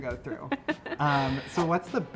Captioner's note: laughs